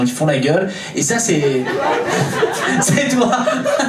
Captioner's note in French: rires public